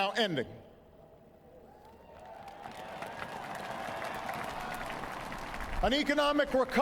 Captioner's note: applause